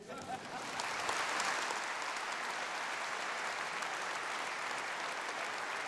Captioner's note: laughter and applause